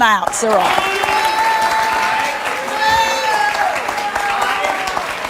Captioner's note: audience cheers and applauds